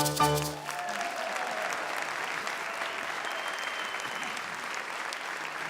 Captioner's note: audience applauds and cheers